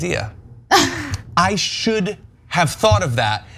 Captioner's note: laugh